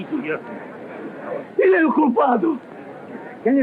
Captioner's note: speaking portuguese